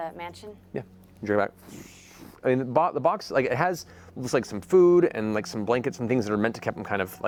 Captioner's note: dragging noises